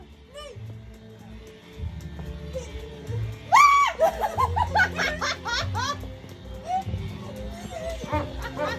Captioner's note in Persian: خنده